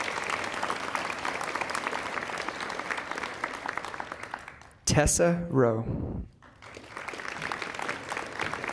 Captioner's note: applause; applause